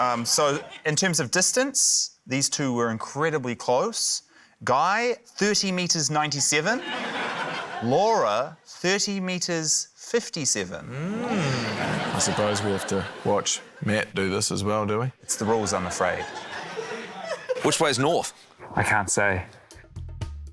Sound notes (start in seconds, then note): 6.7 laughter